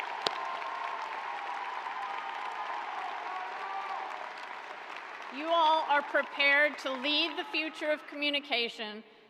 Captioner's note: cheers and applause